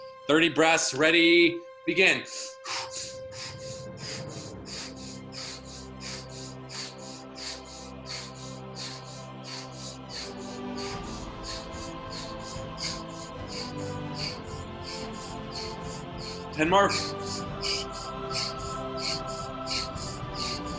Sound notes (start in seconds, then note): 2.4 breathing loudly; 4.9 uplifting music